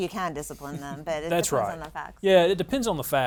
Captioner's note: laughs